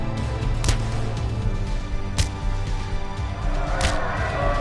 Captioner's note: punches thump; audience applauding